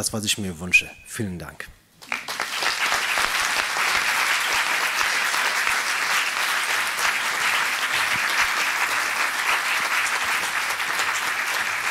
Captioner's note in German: applaus